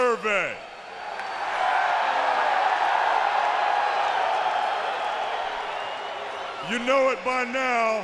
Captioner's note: applause